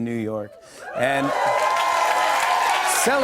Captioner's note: cheers and applause